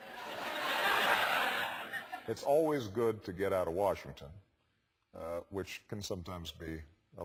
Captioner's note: laugh